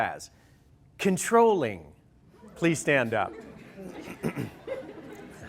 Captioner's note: laughter